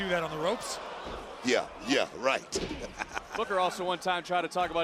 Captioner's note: laughs